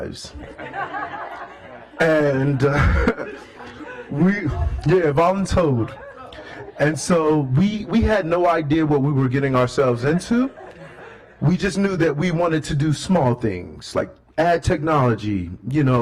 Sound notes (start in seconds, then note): 7.4 laughter